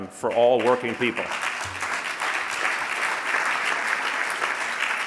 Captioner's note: audience applauding